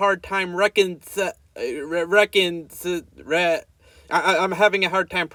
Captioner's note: struggling to say “reconciling”